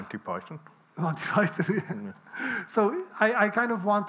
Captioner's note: laughs